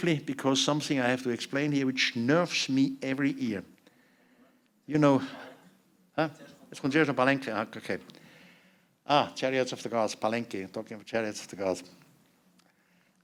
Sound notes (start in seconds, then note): 5.3 non-english speech; 10.2 non-english speech